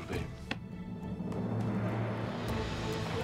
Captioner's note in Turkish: El vurma sesi